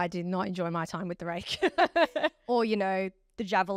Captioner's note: laughs